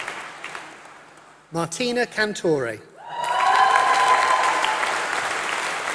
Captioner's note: applause